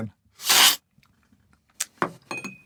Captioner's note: slurp